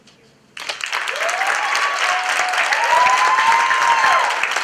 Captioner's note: applause